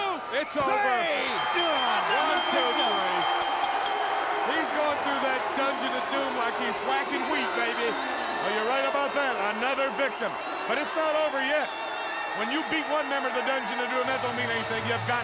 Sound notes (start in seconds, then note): 2.9 bell ringing